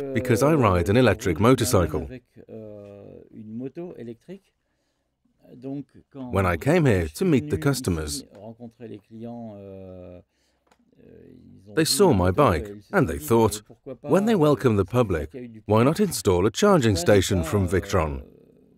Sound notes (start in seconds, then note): 2.7 speaking in foreign language